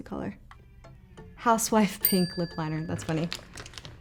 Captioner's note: bell pings